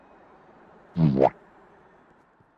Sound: boo-Womp Sound effect

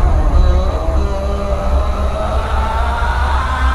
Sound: yelling

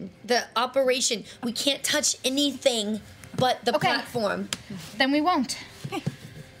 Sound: none

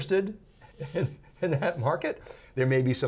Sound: chuckles

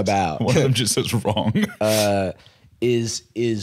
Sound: laughing

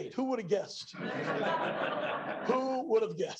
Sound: laughter

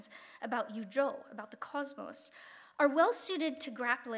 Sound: speaking Chinese

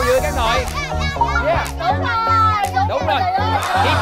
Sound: cheer enthusiastically

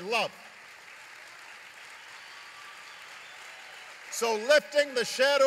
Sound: applause

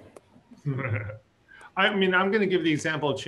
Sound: laughs

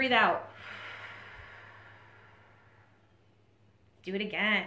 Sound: deep breathing

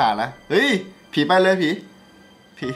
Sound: radio

